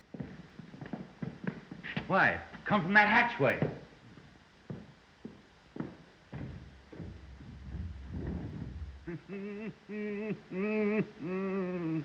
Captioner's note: Renfield - Maniacal laughter